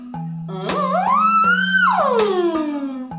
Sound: wailing

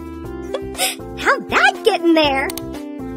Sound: giggles

